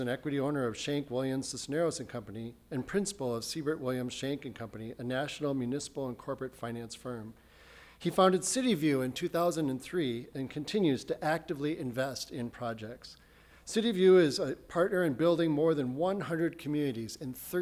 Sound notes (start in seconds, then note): none